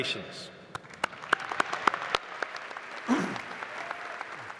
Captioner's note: applause